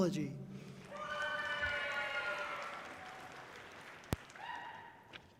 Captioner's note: audience cheering loudly